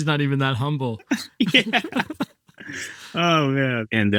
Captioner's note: group laughing